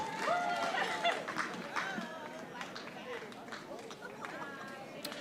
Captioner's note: audience applauding